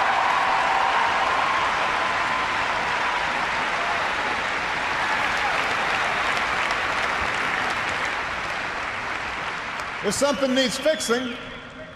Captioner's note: applause